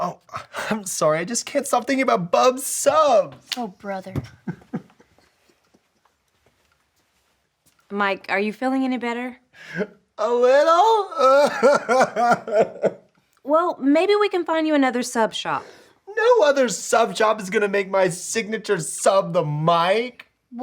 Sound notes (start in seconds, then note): 10.2 cries